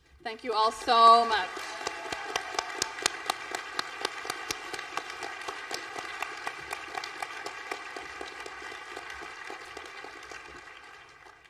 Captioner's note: applause